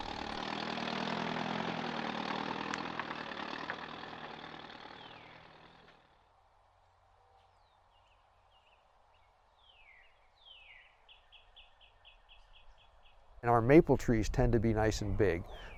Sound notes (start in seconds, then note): 0.0 tractor engine whirring; 5.5 bird chirping